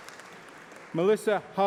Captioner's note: applause